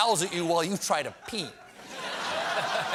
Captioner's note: laughter